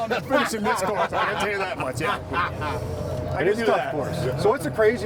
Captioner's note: laughter